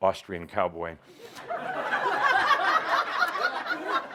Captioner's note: lots of laughter